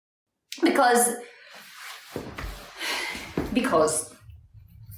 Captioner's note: sighs